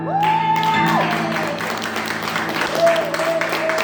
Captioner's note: woos and claps and all that